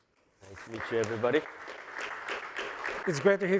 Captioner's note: applause